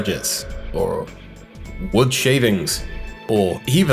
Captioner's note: echoing comically; echoing comically